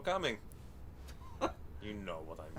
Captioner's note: chuckling